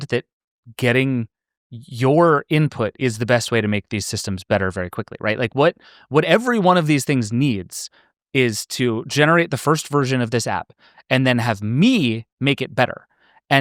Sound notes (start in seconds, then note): none